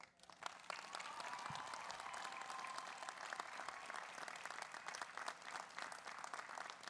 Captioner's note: audience applauds; audience cheers